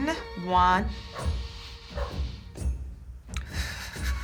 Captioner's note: inhaling; exhaling shakily